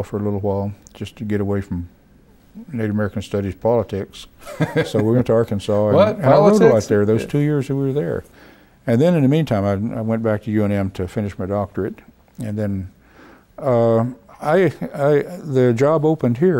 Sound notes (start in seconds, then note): 4.4 laughs